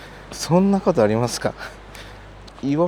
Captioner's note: laughs